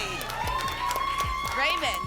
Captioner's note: applause and cheering